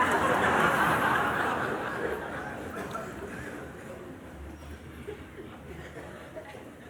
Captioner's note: laughter